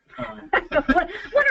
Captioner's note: laughing